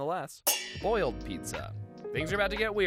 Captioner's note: metal clangs